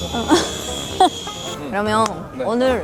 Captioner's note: laughing